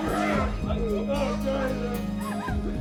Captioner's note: sobbing